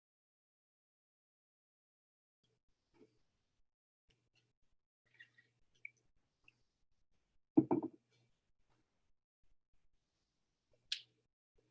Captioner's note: silence while waiting for participant submissions